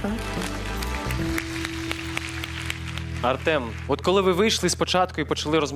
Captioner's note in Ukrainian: оплески